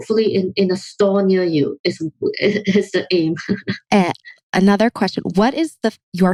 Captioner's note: laughs